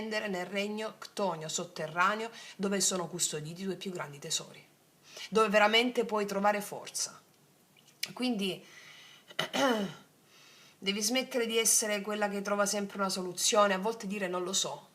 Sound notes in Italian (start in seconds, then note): 9.3 schiarire la voce